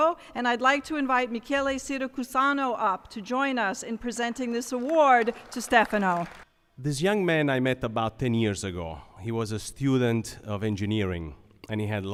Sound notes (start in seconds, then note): 6.0 applause